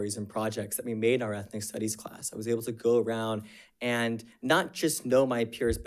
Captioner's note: none